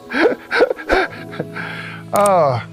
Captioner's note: haha